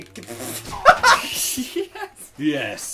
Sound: laughs

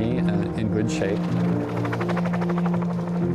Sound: airplane blades buzzing

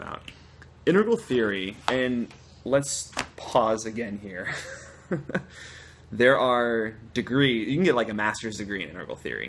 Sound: laughter

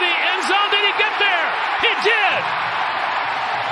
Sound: cheering and applause

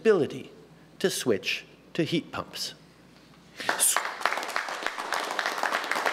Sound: applause

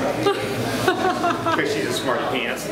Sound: laughing

